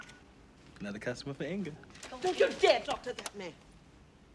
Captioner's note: single Tone